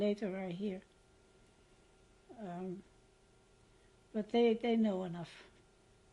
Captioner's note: pauses for 3 seconds; pauses for 6 seconds